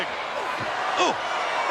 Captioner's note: Ric exclaiming